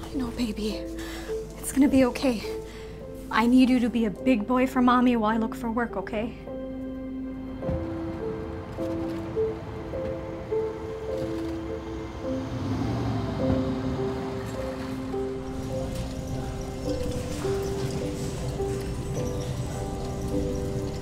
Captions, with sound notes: - I know baby, it's going to be okay. I need you to be a big boy for mommy while I look for work, okay? (car engine revs) (shopping cart whirring)